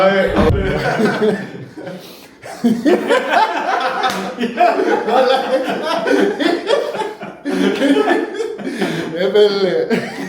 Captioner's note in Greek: γέλια